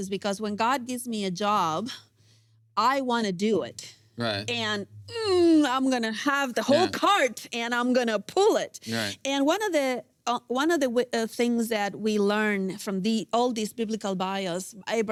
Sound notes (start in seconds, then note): 5.8 grunts